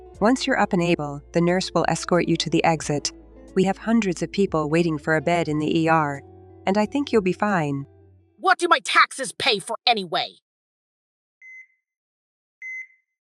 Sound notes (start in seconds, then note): 8.4 Chantal angrily; 12.6 heart monitor beeping